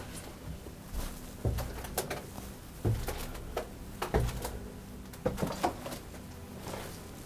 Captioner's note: footsteps tapping going down the stairs